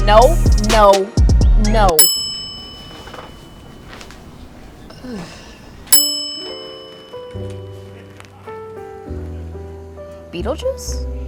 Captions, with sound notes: No, no, no. (bell dings) (sighs) (bell dings) Beetlejuice?